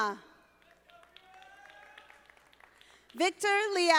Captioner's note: audience applauding